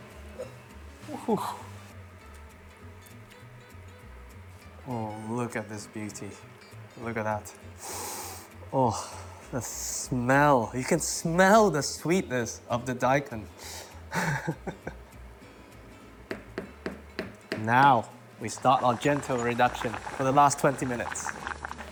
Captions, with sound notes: Uh-huh! Oh, look at this beauty. Look at that. Oh, the smell. You can smell the sweetness of the daikon. [laughs] Now, we start our gentle reduction for the last 20 minutes.